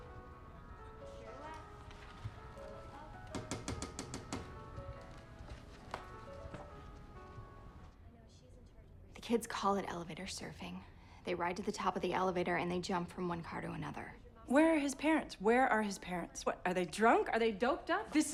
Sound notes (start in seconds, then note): 3.2 door knocking; 5.8 lively piano music